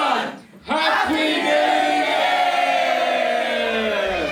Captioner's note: cheering